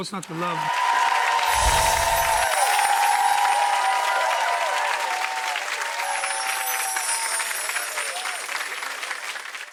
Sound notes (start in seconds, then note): 1.0 audience applauding; 1.4 chimes whooshing; 1.7 audience applauding